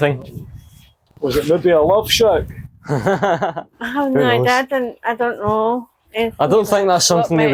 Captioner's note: laughter